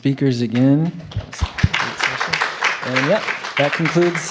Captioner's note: applause